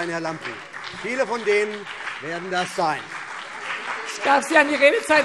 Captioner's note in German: Beifall CDU und BÜNDNIS 90/DIE GRÜNEN - Zurufe AfD